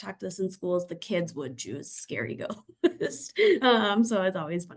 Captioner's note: laughs